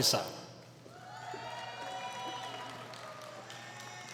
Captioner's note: applause